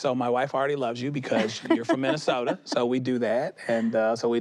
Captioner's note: she laughs